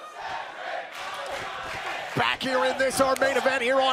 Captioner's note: fans chanting